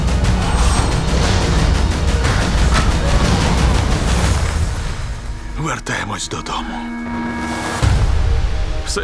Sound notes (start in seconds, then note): 2.7 man 2 screams; 4.3 music dies down; 7.7 music swells